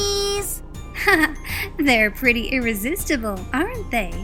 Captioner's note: chuckling